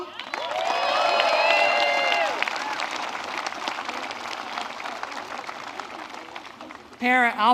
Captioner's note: applause